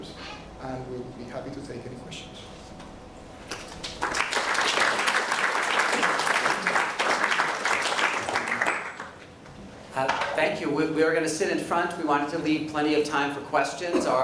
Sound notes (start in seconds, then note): 3.4 clapping